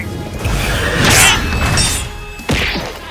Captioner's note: grunts